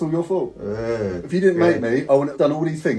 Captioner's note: dad groaning